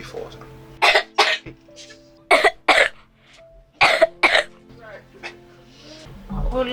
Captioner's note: wet coughing